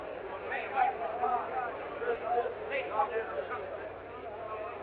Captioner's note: people chattering